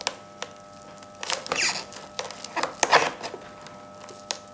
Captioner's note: soft squeaking